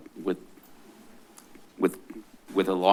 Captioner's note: stuttering